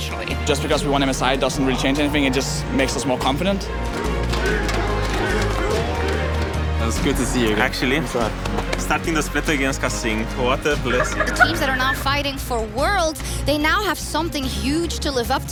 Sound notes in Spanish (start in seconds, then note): 10.7 Risas